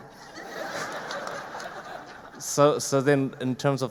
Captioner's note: audience laughing